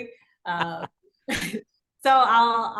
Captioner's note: both laughing